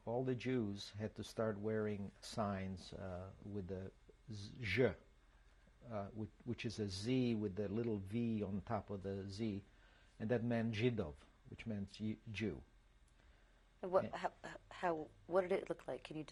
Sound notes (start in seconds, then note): 4.3 serbian; 11.2 serbian